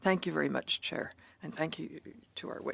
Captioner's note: speaking in French